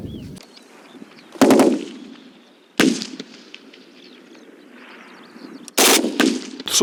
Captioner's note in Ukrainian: стріляє